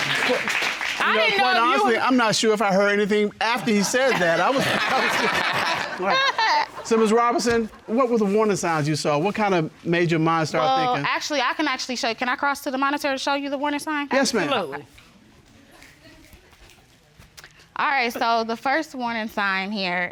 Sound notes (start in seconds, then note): 3.4 all laugh